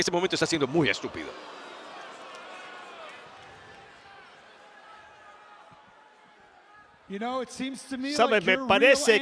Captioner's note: applause